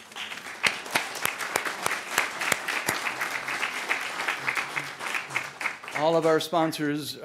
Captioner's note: applause